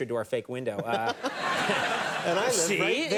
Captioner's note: audience laughing; Matthew laughing